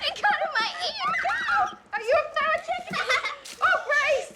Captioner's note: laughter